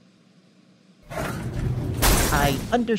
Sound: elevator crashes

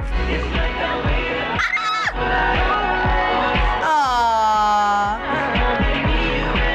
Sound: squeals

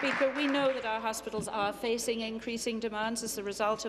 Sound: applause

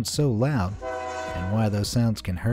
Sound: train honks

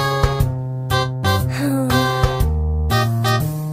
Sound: Tails sighs

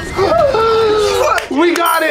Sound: gasp

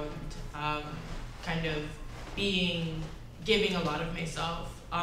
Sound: none

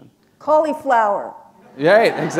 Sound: laughter

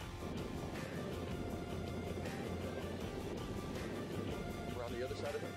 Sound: moderate upbeat music; wind rumbles

